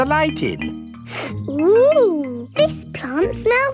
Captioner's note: sniffs